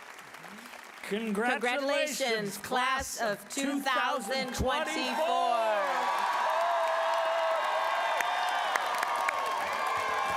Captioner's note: applause